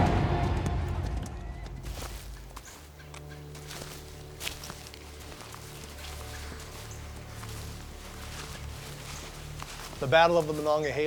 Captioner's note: footsteps